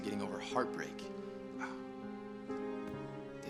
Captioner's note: sighs